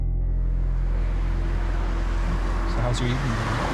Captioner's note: car engine whirs